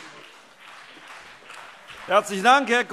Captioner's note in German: Beifall CDU und BÜNDNIS 90/DIE GRÜNEN